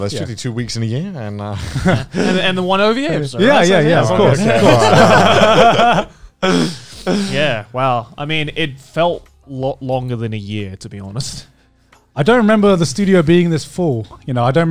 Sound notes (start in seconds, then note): 4.4 everyone laughs